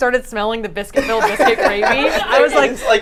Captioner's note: group laughs